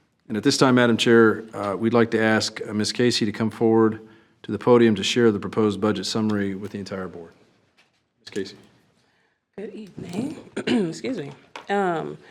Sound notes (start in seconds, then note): 10.2 clears throat